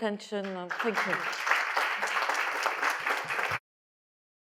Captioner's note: audience applauding